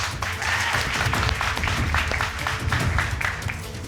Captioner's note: crowd clapping